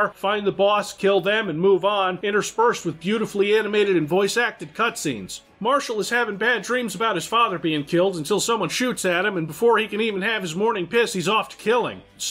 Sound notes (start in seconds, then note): none